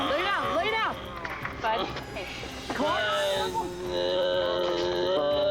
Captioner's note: groaning